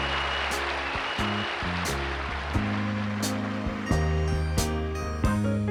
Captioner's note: applause